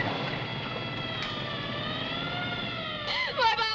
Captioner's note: sirens wailing